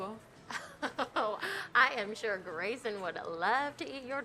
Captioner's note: laughing